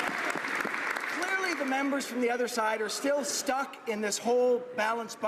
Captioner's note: some Applause